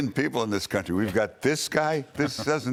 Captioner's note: laughter